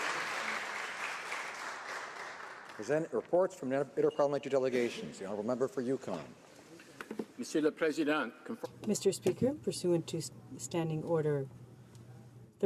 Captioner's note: applause